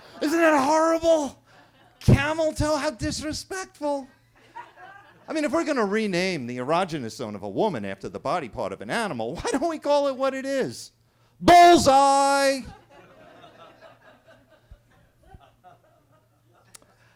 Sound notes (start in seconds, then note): 0.0 everybody laughing; 4.4 attendees laughing; 12.5 attendees laughing